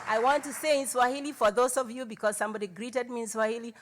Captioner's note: cheering and Applause